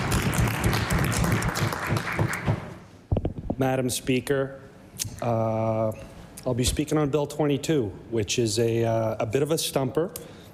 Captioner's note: applause